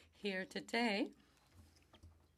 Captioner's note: speaking French